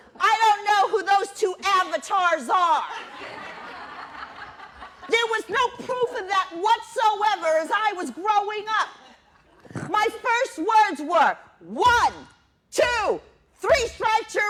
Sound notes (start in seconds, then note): 2.9 laughter